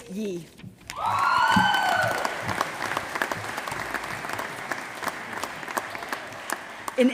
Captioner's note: applause